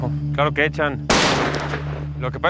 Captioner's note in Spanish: Disparo